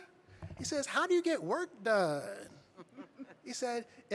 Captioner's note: audience chuckling